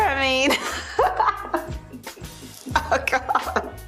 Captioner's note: laugh